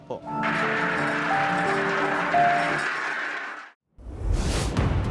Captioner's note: construction ongoing